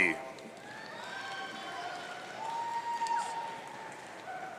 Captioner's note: audience cheering